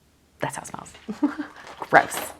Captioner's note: laughs